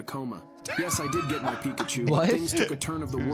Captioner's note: laughing